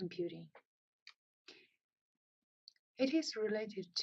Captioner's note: pause